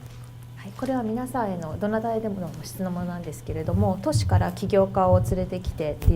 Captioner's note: speaking foreign language